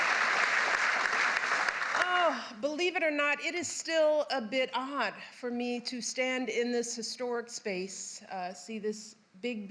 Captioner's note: applause